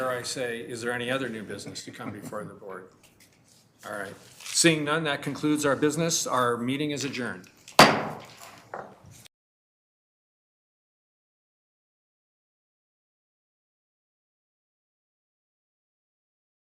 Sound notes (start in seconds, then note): 7.7 hammer clatters